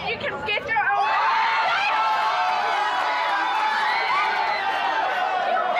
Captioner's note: people cheering